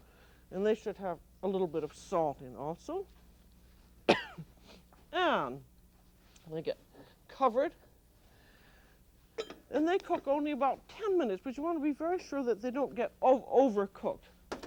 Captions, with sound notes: And they should have a little bit of salt in also. [coughs] And they get covered. Then they cook only about 10 minutes. But you want to be very sure that they don't get overcooked.